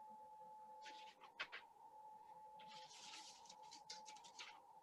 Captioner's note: paper rustling